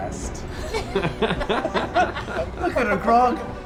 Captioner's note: laughter